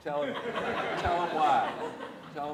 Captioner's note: audience laughs